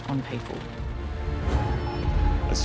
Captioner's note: telegraph wires buzzing